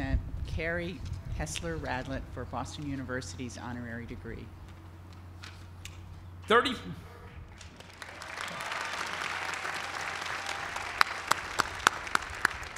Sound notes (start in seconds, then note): 7.5 applause